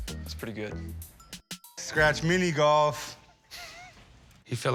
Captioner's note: chuckles